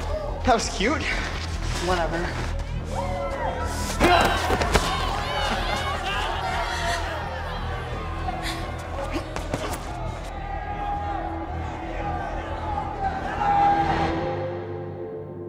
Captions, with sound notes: - That was cute. - Whatever. (dramatic music) (crowd cheering)